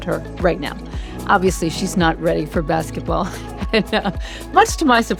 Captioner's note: chuckles